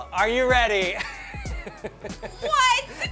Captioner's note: laughs